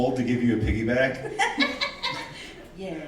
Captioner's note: laughing